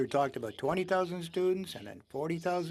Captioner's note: speaking French